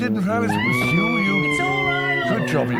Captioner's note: Barbra screaming